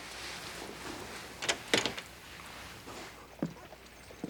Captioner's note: door opens